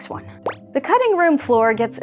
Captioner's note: bloop